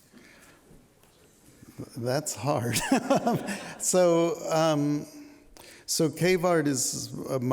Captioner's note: laughter